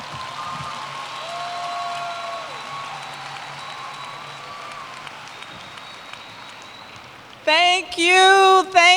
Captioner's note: cheers and Applause